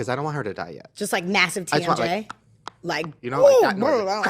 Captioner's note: jaw cracking sounds